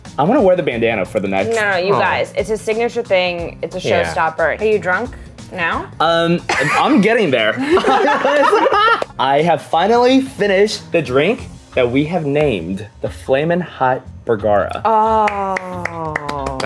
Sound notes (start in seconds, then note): 7.6 laughs; 15.2 applause